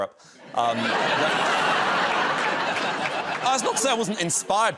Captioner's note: laughter